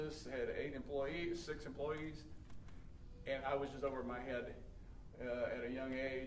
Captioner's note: none